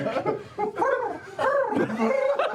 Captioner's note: pigeon cooing